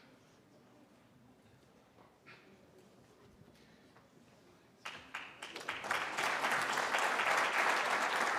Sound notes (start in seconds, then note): 4.8 applause